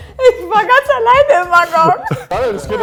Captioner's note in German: lachend